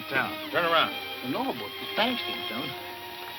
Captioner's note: Poncho muttering in Spanish; peaceful instrumental music